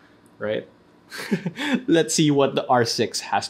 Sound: laughs

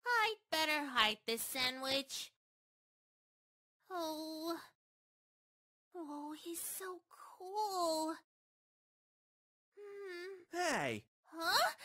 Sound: groans

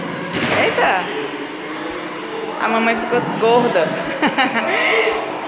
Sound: laughter

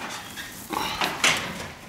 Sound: groan

